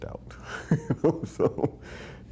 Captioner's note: laughing